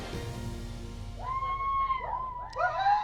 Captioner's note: cheering